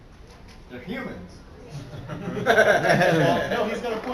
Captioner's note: laughter